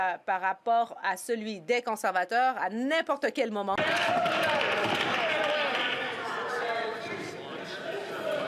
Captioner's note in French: voix de l'interprète